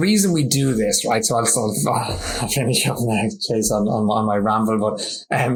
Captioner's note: laughs